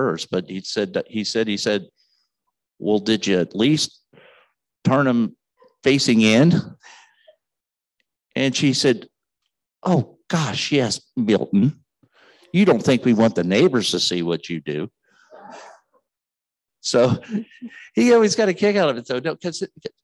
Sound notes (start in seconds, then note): 15.7 scattered chuckles